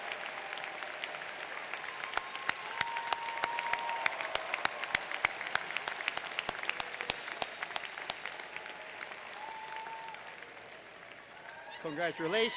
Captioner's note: applause